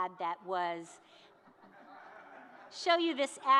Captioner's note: audience laughing